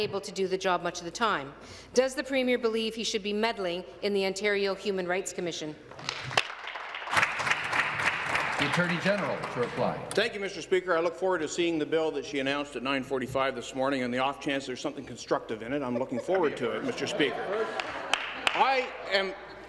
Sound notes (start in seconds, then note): 9.2 applause